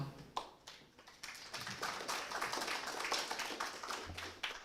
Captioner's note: applause